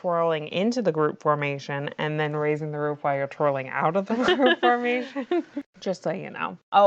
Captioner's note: laughs